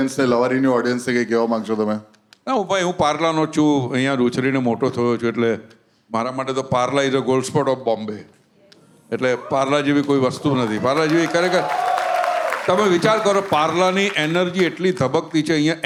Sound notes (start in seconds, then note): 11.7 crowd applauding